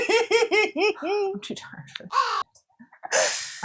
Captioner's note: caw